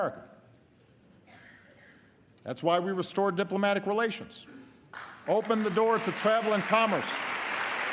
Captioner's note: applause